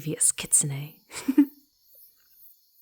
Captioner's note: giggling